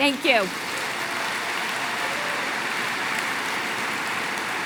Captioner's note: applause